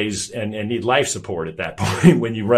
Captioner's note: chuckles